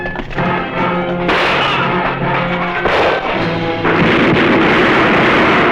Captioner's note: gunfire